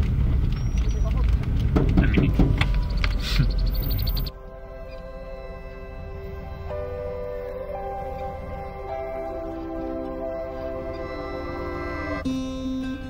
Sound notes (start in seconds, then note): 1.7 knocking on car; 4.8 tranquil ambient music